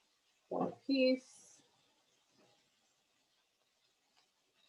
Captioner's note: murmurs